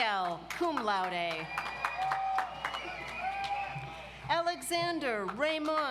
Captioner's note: audience applauds